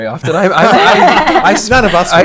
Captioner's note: laughter